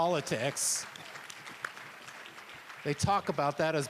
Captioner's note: applause